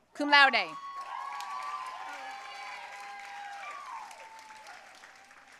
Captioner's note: audience cheering and applauding